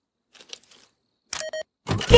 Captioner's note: beep beep